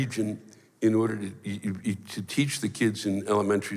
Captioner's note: stammers